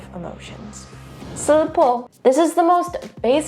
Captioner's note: menacing music; speaking in Korean